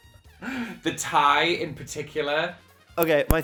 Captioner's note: wheezes